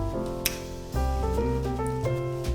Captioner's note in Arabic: موسيقى البيانو; أصوات التقبيل